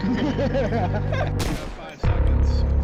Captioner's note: maniacal laughter; gunshot; music drops